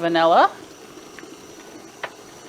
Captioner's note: mixer whirring